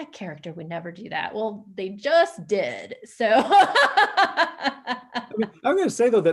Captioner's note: laughs